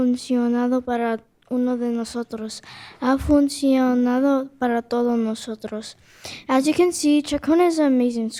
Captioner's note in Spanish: hablando español